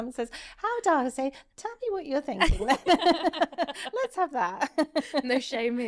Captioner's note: both laughing